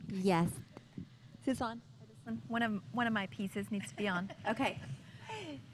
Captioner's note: laughter